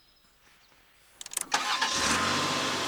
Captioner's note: engine starts